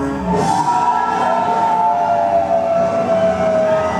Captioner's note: upbeat music; people clamoring